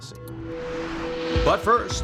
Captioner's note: screen whooshes